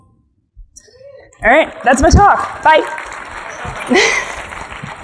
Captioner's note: audience applauding; audience laughs